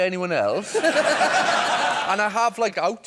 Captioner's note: laughter